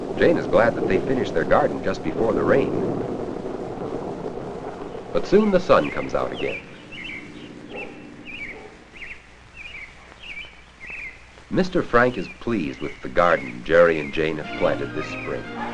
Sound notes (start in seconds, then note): 6.9 birds chirping